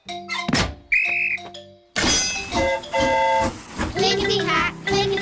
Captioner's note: blows whistle; train horn toots